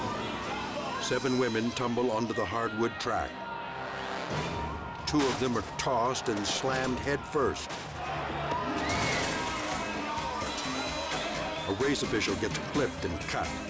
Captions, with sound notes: Seven women tumble onto the hardwood track. Two of them are tossed and slammed headfirst. (bikers crashing) A race official gets clipped and cut